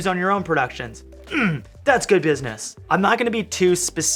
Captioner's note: grunting